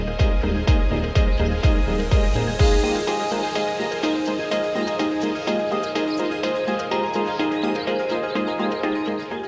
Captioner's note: birds Chirping